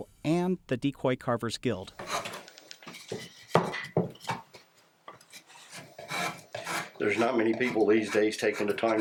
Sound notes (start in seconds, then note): 3.5 wood thudding; 5.2 file scraping